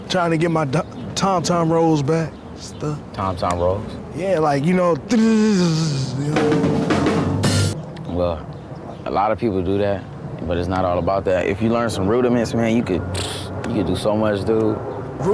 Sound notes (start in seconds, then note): 5.2 makes drumming sound; 5.9 drumming